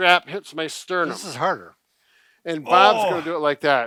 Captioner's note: groaning